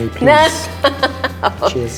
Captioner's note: laughter